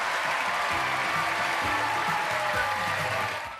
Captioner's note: cheers and applause